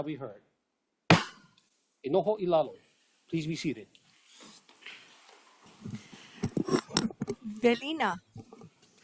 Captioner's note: gavel bangs once